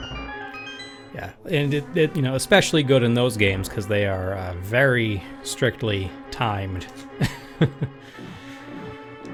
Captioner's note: laughs